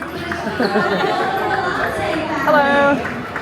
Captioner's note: people chatter